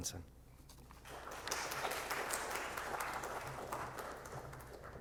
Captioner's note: applause